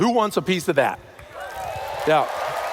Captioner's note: cheers